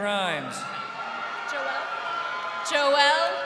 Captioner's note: crowd cheering